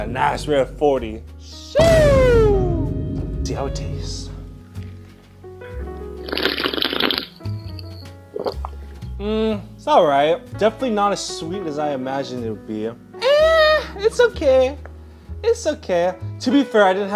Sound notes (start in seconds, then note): 6.3 slurping; 8.7 gulping